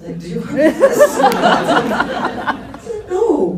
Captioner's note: laughs